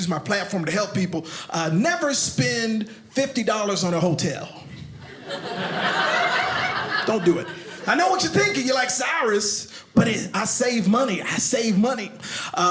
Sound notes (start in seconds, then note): 5.0 audience laughing